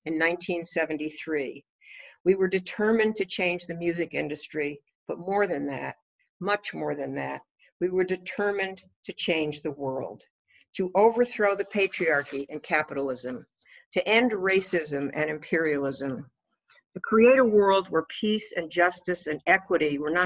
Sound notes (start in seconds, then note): none